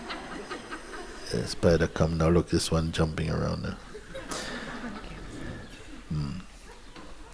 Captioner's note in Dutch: gelach